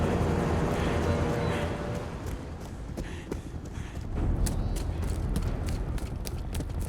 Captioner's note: helicopter whirring; Peter panting; footsteps tapping